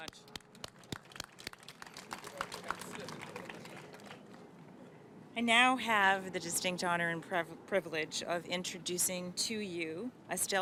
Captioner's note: applause